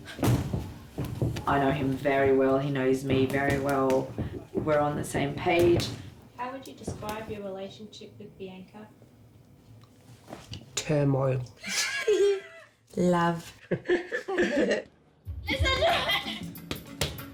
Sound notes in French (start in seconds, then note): 11.6 rigole